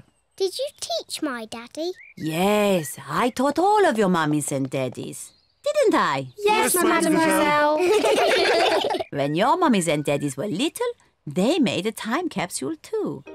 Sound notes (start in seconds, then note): 7.0 all laugh